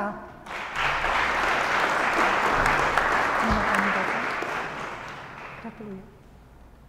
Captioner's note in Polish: oklaski